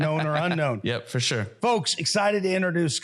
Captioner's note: laughs